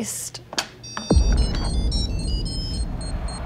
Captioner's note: beeping